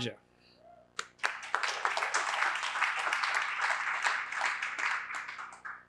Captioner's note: applause